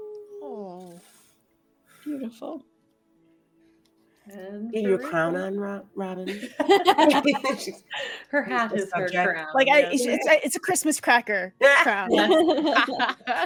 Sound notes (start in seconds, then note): 6.2 laughs